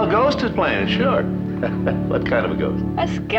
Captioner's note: chuckles